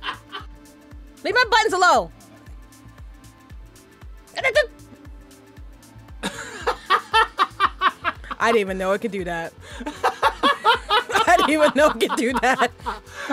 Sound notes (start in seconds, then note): 6.2 laughs